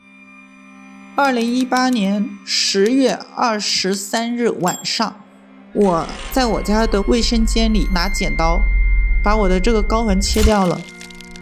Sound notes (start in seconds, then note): 1.2 in Mandarin